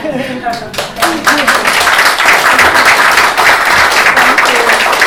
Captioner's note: applause